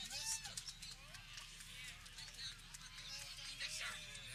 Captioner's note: people cheering